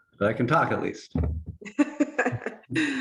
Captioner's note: laughing